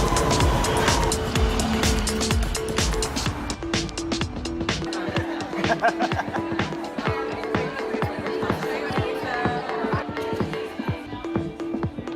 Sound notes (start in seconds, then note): 4.8 laughing